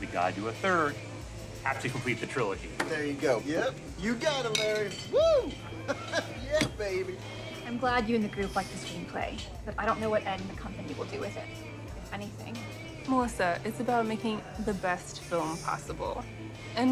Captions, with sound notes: we gotta do a third. Have to complete the trilogy. - There you go. Yep. You got it, Larry! Woo! (Laughs) Yeah, baby. - I'm glad you and the group like the screenplay, but I don't know what ed and the company will do with it, if anything. - Melissa, it's about making the best film possible,